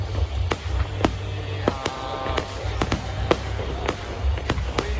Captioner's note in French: Foule